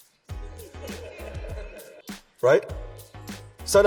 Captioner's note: audience laughs